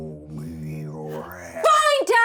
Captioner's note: none